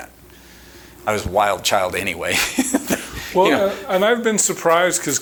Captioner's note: chuckling